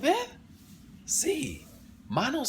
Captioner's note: spanish